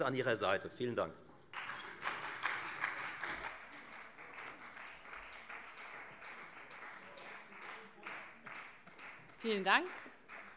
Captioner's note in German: Beifall Freie Demokraten